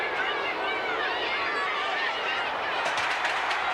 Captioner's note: crowd shouting